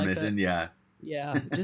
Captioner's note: chuckling